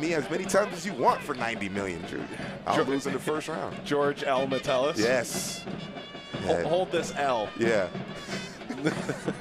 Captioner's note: laughing